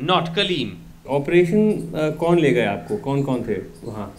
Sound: non-english speech

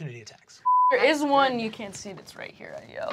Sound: beep

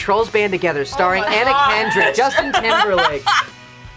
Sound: laughs

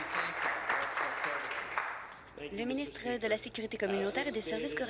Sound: applause

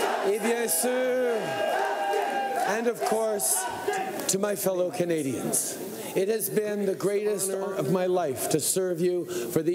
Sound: chanting

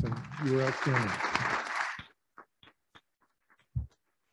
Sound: applauding

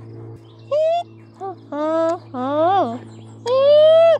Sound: humming

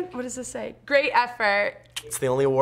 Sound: clicks tongue

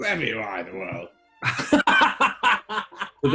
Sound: laughter

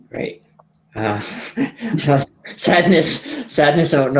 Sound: laughing

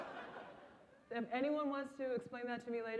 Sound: laughter

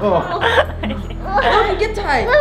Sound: laughing

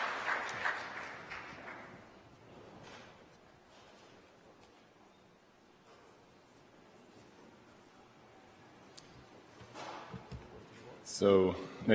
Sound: applause

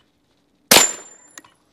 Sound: bang

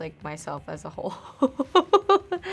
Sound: laughs

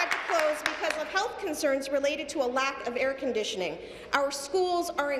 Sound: applause

